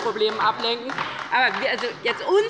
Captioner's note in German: Beifall bei der LINKEN